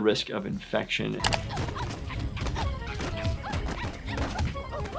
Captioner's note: Giggles grunting